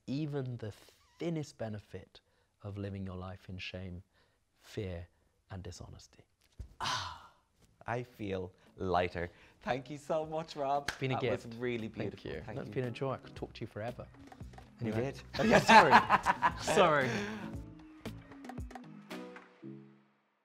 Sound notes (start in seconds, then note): 15.4 laughing loudly; 17.8 quirky music